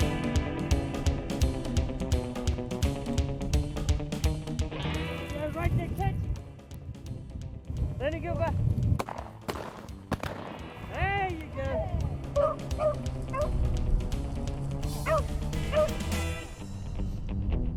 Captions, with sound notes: - You guys ready to catch it lemme go back (gunshot firing) there you go (dog barking)